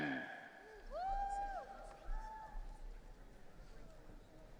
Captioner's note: audience cheering